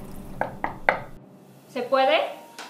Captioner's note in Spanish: knock knock knock